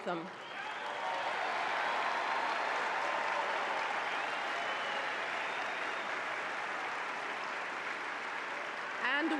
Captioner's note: applause